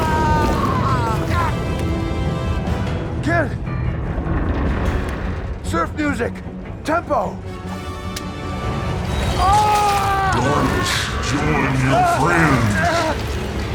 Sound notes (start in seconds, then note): 0.9 intense music continues; 9.3 screams